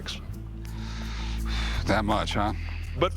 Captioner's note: blows